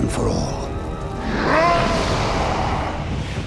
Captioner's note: roaring